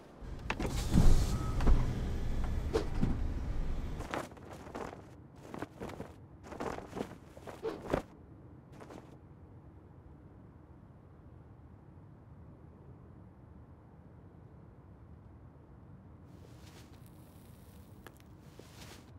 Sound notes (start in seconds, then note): 0.3 suspension hissing; 2.7 air whooshing; 2.7 phone thuds; 7.4 air whooshing